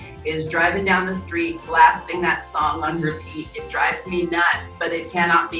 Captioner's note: laughing